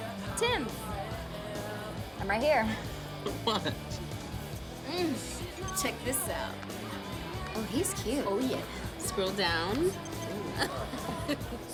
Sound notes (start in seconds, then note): 2.6 laughing; 8.4 laughs